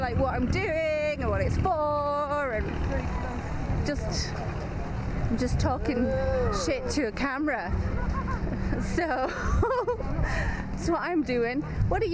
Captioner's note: laughs